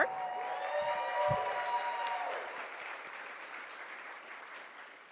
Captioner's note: audience cheers